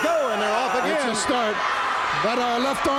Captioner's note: audience cheers